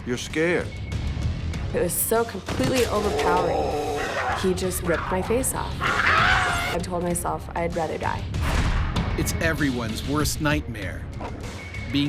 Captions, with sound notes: You're scared. - It was so completely overpowering. He just ripped my face off. (screams) I told myself I'd rather die. - [Voiceover] It's everyone's worst nightmare,